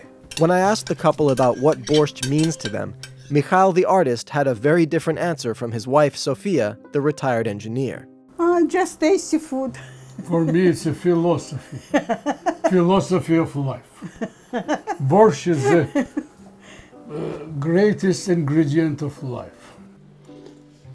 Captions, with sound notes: - When I asked the couple about what borscht means to them, Mikhail the artist had a very different answer from his wife, Sophia, the retired engineer. - Just tasty food - For me, it's a philosophy. (laughter) A philosophy of life. Borscht is the greatest ingredient of life.